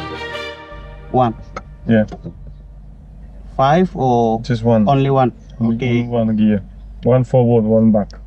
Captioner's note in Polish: rozmowa w j. angielskim